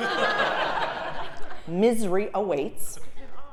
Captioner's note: laugh